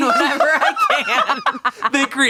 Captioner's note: everyone laughs